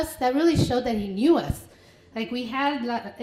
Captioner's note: foreign language